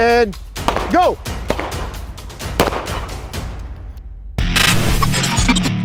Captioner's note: firing continues; upbeat music